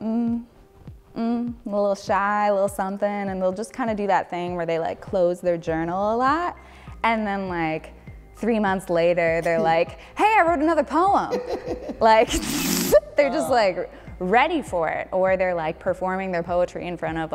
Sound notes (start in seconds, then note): 0.1 woman groans; 11.3 laughing; 14.3 woman laughing